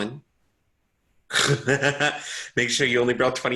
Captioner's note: giggles